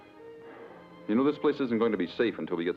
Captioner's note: sighs